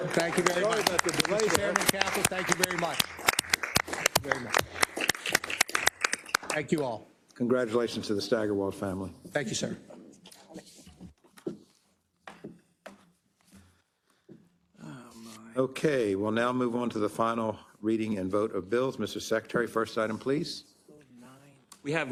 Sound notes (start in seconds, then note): 5.1 applause